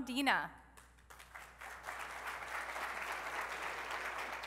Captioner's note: applause